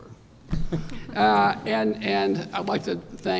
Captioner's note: laughter